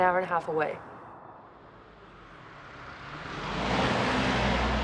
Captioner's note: car engine roaring